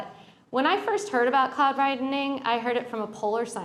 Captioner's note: none